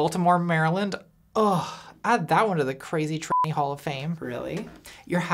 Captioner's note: beep